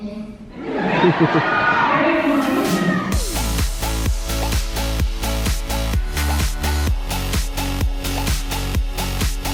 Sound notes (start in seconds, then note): 0.5 audience laughter; 2.1 upbeat music